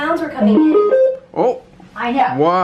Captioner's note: loud beep